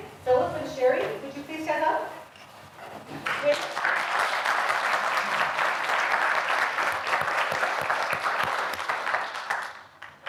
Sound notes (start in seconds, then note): 3.2 audience applauding